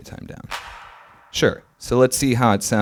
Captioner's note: fast reverberating clap